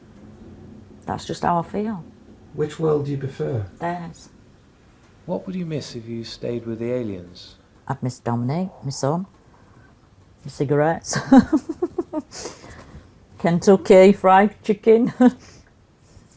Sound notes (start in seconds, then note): 2.8 voiceover; 5.5 voiceover; 11.1 giggles